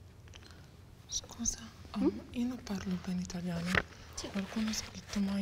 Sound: in faltering Italian

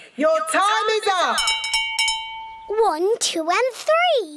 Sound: rings bell

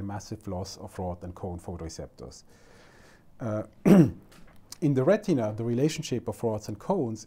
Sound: clears throat

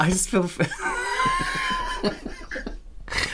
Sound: dissapointed Laughter

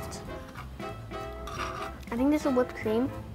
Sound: fork scrapes

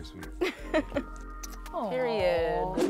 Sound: laughs

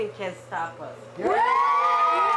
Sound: cheers

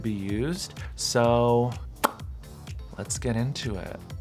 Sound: pops lips

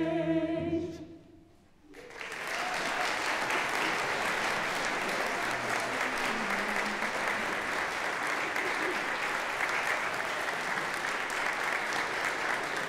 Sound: applause

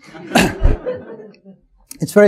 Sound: audience chuckling

